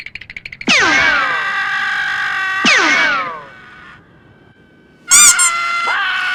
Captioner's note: Callie Screaming